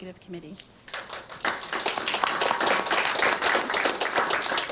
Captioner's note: applause